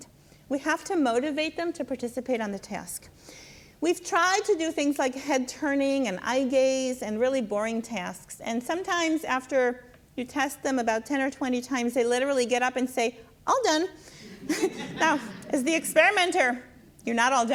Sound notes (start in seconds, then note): 14.2 laughs with audience